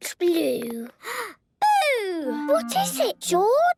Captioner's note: gasps